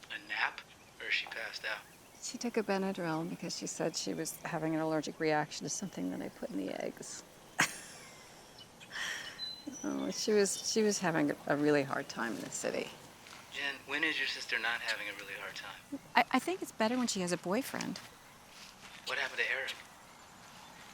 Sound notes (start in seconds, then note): 7.5 laughs